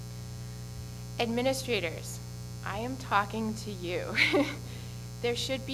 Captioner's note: laughs